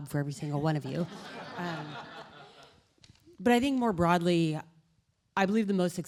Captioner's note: laughter